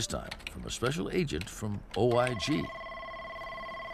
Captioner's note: telephone rings